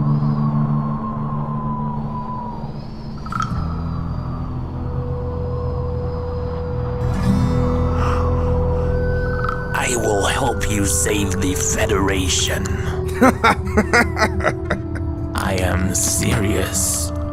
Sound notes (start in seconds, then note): 12.3 chuckles